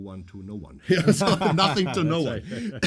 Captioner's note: both laugh